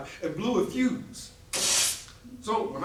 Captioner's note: electrical sting